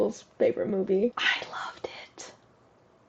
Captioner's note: whispers